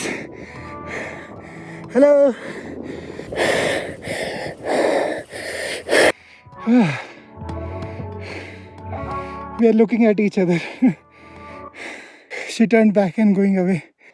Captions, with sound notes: Hello. (breathing heavily) We are looking at each other. She turned back and going away.